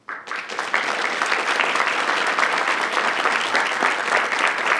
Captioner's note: audience clapping